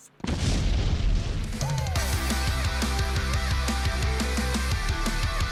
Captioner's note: explosion; upbeat music